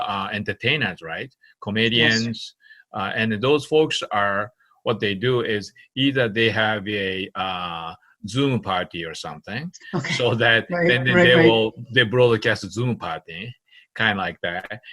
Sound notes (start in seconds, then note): 10.7 laughing